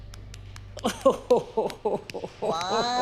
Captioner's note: Abby clapping; laughing